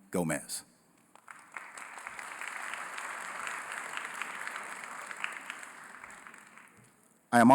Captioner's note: applause